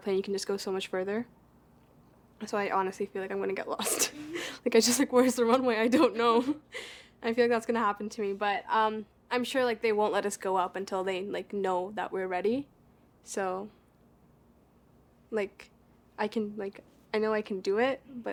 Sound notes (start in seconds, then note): 4.5 laughs